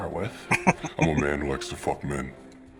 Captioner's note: chuckling